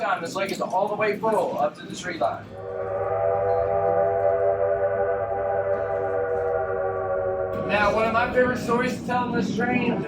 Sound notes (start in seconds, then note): 2.5 train whistle howling